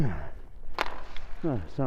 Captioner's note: grunting